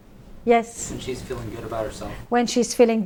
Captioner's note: voiceover